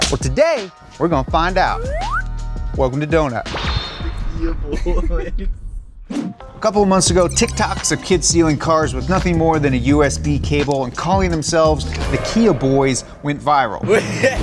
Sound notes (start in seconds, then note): 4.5 TikTok Voice; 13.8 Kia Boyz laugh